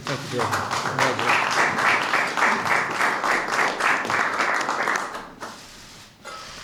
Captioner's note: applause